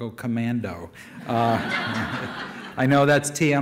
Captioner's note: audience laughter